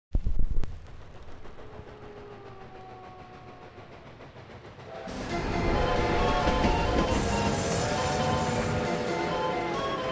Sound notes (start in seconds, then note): 1.2 distant train sounds; 2.0 wolf howling; 4.8 train horn